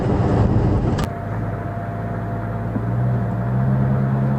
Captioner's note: engine, electric fan sounds